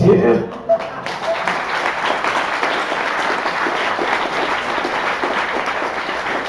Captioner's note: applause